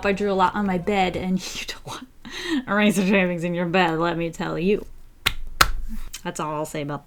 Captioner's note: clap, clap